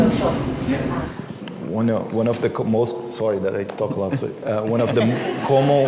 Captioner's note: laughter